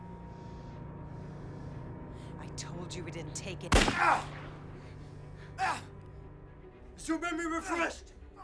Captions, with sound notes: - I told you we didn't take any- (gun bangs) (Solomon groans) - Is your memory refreshed?